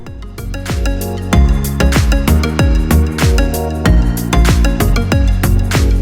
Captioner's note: calm upbeat music; hands clapping rhythmically